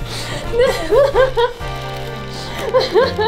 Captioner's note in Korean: 웃음; 웃음 소리